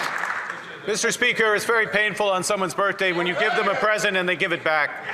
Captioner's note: some Applause